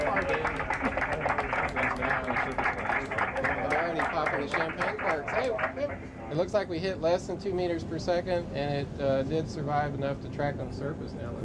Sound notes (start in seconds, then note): 0.0 team clapping